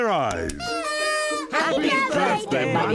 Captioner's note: party horns blowing